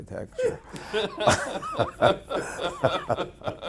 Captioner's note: laughing